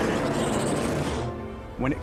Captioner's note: roaring